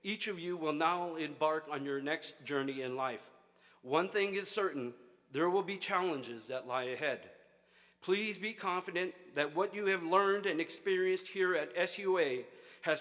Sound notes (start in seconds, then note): none